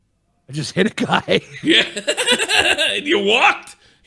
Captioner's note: laughing